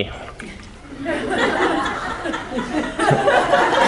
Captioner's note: laughing